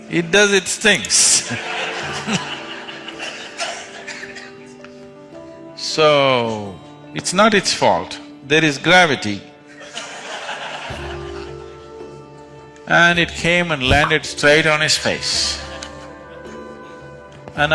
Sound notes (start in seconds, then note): 3.9 laughter; 9.7 laughter